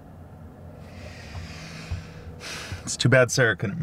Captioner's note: Dave sighs